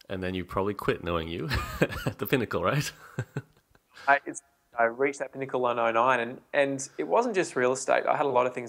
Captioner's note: laughs